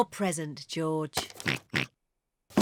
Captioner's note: oinks; rattles